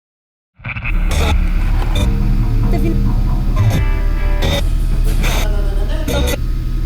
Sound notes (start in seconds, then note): 0.6 radio tuning